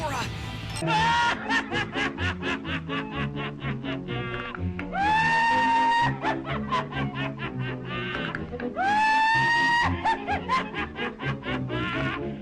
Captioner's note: old movie exaggerated laughter clip